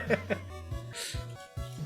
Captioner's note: laughter